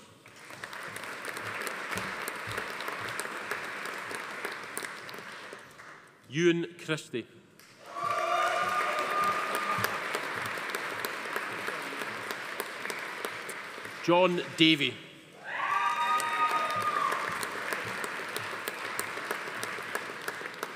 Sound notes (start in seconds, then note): 0.1 audience applauding; 7.8 attendees cheering; 7.8 audience applauding; 15.4 attendees cheering; 15.5 audience applauding